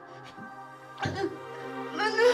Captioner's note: Mia crying